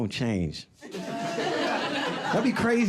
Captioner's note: audience laughing